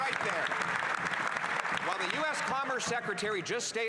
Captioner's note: applause